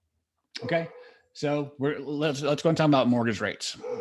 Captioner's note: dog barking